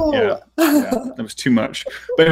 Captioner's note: laughing